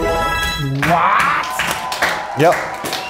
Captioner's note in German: Jubel, Applaus